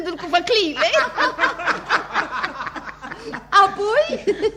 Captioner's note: all laugh